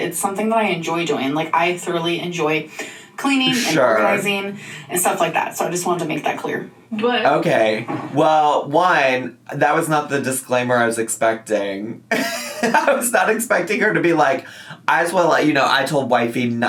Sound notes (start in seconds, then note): 12.2 laughs